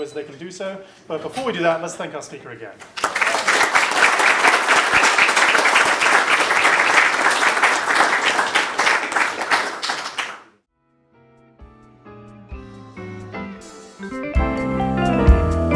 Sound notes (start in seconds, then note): 2.9 applause